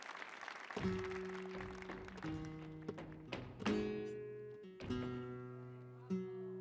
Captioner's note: shoes rhythmically tapping